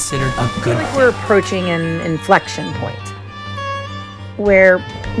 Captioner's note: podcast Voice